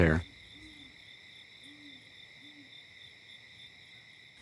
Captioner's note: crickets chirping